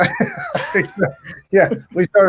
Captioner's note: laughing